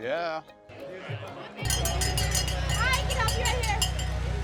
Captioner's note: bell ringing